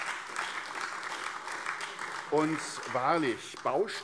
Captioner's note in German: Beifall AfD